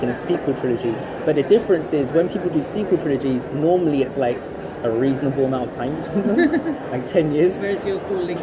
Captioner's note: laughs